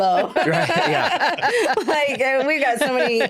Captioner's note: laughing